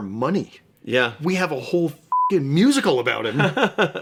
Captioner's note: beeping